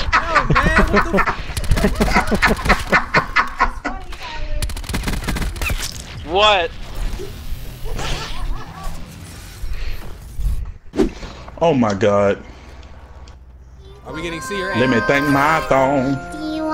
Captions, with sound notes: Host - No man what the. (laughing) - What's funny Tyler? What? (Laughing) - Oh my god. Host - Are we getting see her at. - Let me thing my thong.